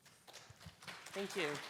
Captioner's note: audience applauding